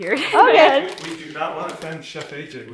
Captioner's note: laughs